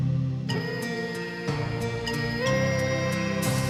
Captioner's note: children humming